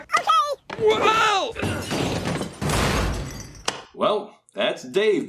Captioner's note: crashing